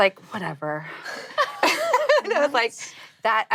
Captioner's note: laughing